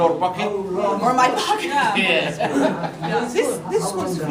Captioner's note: laughs